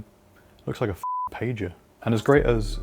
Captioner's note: beep